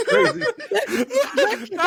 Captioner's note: laughing